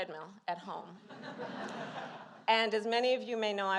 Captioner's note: laughter